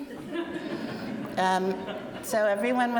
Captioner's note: audience laughing